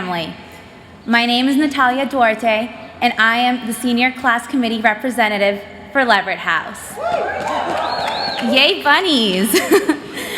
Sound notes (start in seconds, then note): 6.9 cheers; 9.4 chuckles